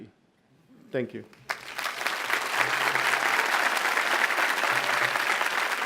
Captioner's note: audience applauds